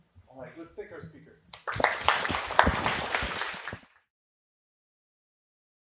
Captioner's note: applause